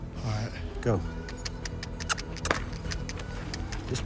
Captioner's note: clicking tongue